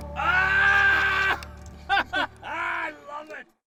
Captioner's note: laughing